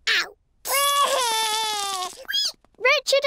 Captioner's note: cries